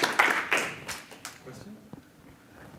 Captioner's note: applause